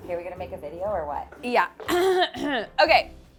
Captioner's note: clears throat